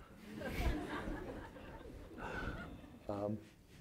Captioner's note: laughing